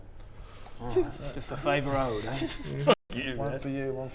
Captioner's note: naughty kids giggling